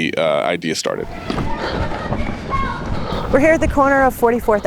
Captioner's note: spectators chattering